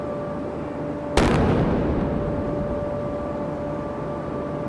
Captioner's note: cannon firing